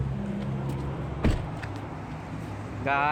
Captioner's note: car door noises